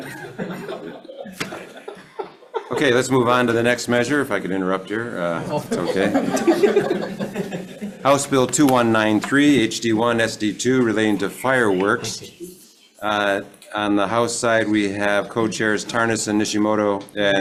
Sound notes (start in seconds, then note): 0.0 committee laughing; 5.3 committee laughing